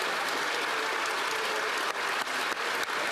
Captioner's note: applause